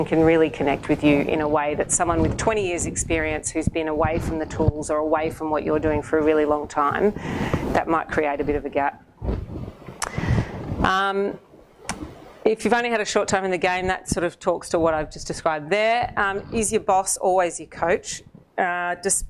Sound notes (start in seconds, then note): none